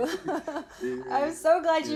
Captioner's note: laughing